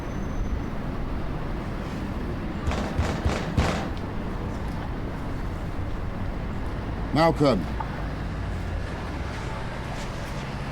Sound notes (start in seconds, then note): 2.6 Sonny continues knocking